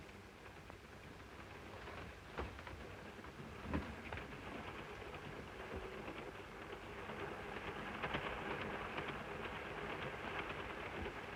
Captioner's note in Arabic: صوت خشخشة القطار